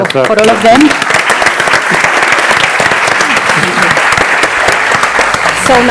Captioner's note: audience applauding